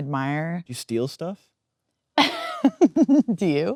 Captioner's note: Kate laughing